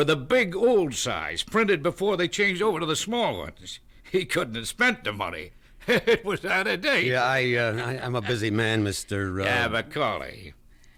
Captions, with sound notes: The bills were the big old size, printed before they changed over to the small ones. He couldn't have spent the money. [ Laughing ] It was out of date! >>Yeah, I -- Uh, I'm a busy man, mister, uh...